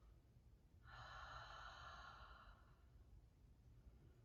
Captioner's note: exhaling